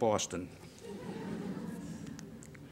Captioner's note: laughter